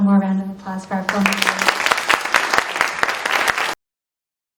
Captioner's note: audience applauding